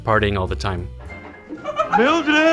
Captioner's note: woman giggles